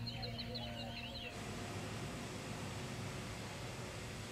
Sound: ethereal music; machinery whirring

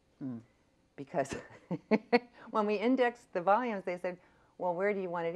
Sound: laughs

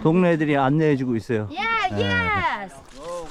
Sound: too noisy kids

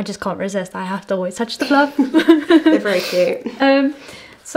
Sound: laughing

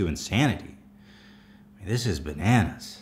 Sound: deep sigh

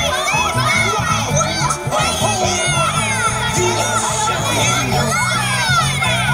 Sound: all cheering for Boots

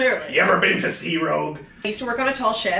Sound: mockingly; pirate voice

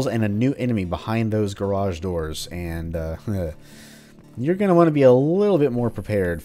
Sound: nervous chuckle

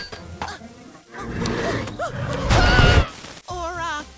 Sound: roaring; screaming

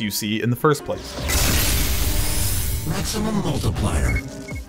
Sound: BFG firing

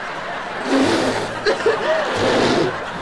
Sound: crying

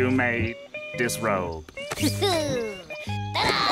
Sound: chuckles; others gasping

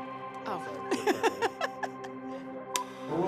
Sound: laughs

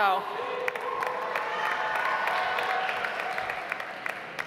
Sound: audience applauds

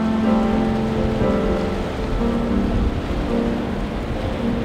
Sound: waves rolling

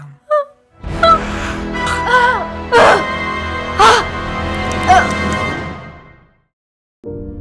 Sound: dramatic music; Lili gasps; soft piano music

